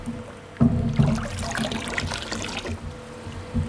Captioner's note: splashing